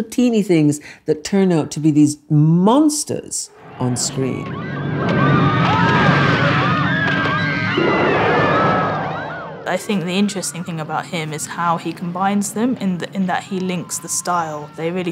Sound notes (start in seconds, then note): 5.3 people screaming and T-Rex roaring